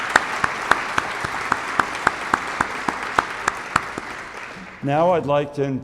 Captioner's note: audience applauding